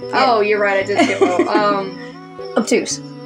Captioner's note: laugh